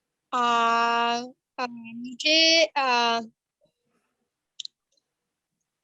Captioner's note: speaks foreign language